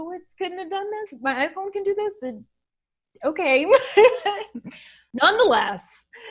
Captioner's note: laughs